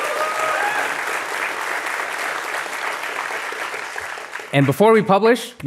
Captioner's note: applause